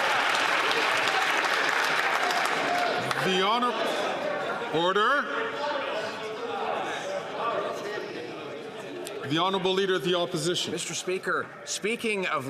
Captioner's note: some Applause